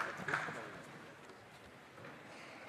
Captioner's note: applause